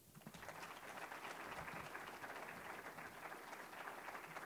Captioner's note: audience applauding